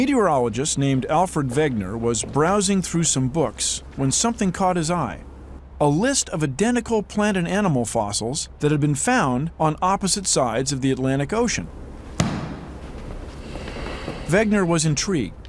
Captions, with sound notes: A METEOROLOGIST NAMED ALFRED WEGENER WAS BROWSING THROUGH SOME BOOKS WHEN SOMETHING CAUGHT HIS EYE -- A LIST OF IDENTICAL PLANT AND ANIMAL FOSSILS THAT HAD BEEN FOUND ON OPPOSITE SIDES OF THE ATLANTIC OCEAN. [ THUD ] [ SIGHS ] WEGENER WAS INTRIGUED.